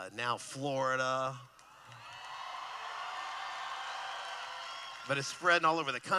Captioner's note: cheering